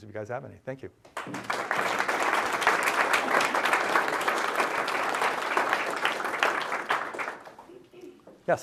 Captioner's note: applause